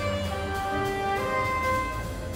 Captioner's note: none